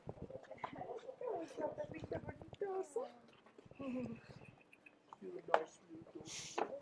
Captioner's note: visitor speaking foreign language